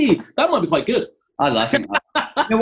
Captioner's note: laughing